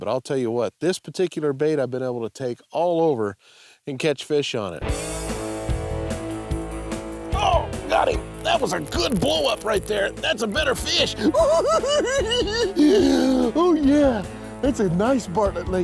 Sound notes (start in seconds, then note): 4.6 upbeat rock music; 11.0 giggles